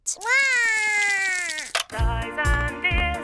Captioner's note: cries